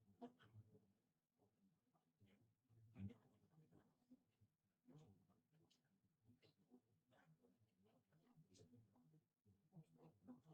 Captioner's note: silence